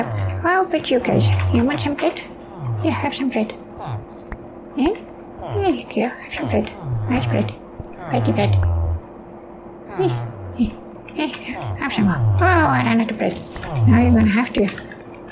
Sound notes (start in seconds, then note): 7.9 villager noises